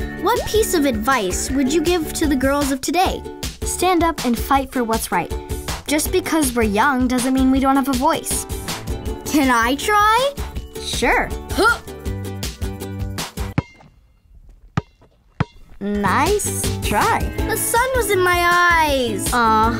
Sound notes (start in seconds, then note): 14.4 ball bouncing